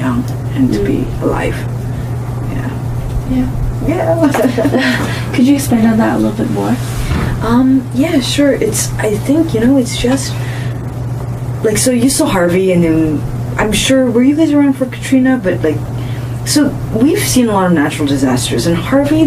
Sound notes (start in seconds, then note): 4.2 laughs